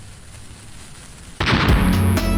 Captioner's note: boom!